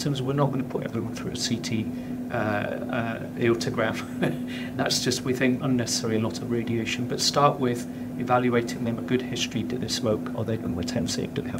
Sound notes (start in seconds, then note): 4.0 laughs